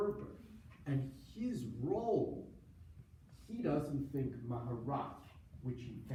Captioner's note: foreign language